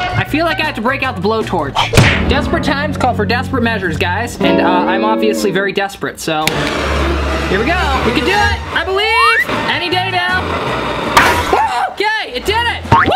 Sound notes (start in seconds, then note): 11.2 loud pop